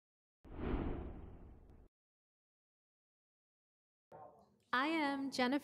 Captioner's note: whoosh